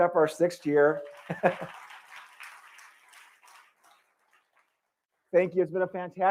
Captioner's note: applause